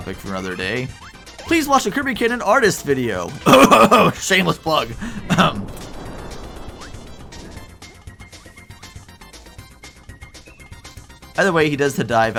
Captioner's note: cough